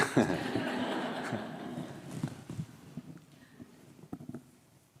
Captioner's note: audience laughing